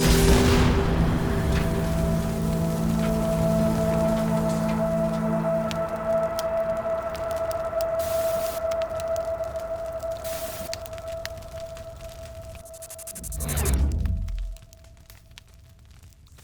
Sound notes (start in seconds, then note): 0.0 tremendous explosion; 8.2 digital fire crackles; 12.7 digital buzzing glitches